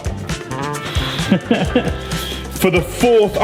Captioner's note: huffs; laughs